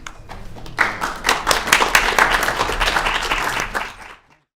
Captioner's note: applause